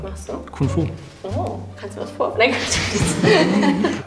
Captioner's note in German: alle lachen